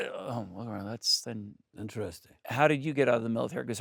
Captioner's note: grunts